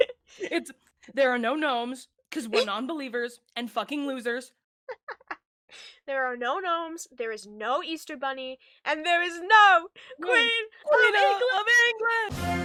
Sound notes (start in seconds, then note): 0.0 both laughing; 4.5 laughs